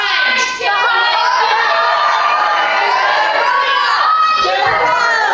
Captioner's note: audience shouts "IT'S BEHIND YOU!"